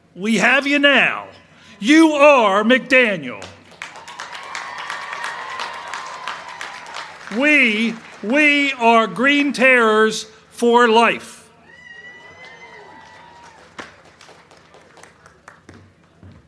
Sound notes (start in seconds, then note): 3.4 crowd cheering